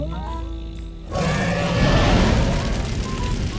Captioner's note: dragon roars